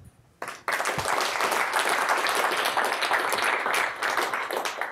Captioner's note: audience applause